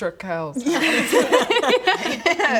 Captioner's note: desperate laughter